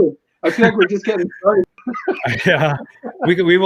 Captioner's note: laughs